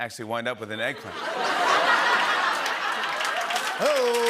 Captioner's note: laughter and applause